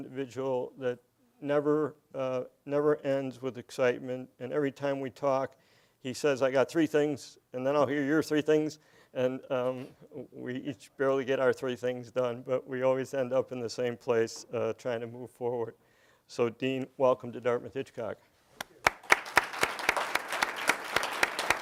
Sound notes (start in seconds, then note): 18.6 applause